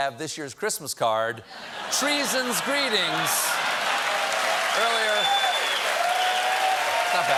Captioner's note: cheers and applause